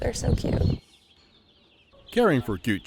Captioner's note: chicks cheeping